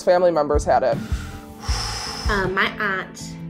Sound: sighs

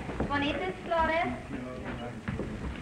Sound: speaking spanish

